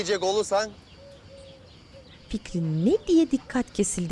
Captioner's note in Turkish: Kuş cıvıltısı sesleri